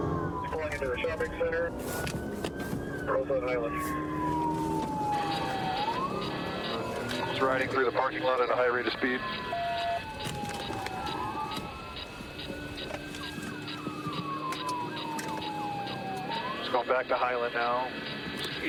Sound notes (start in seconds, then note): 9.4 sirens blaring